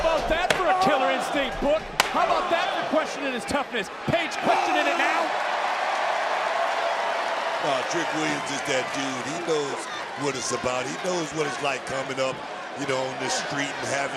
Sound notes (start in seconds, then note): 6.5 crowd cheers